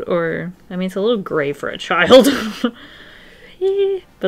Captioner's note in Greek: Γέλια